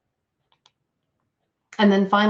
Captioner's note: computer mouse clicks